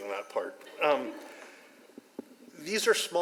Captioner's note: audience laughs